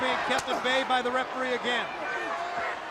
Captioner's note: crowd chatter